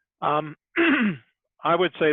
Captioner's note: clears throat